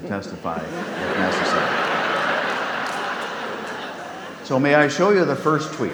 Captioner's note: audience laughs